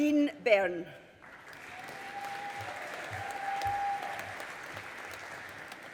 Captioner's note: audience applauding